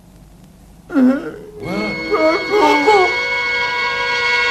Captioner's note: more sighing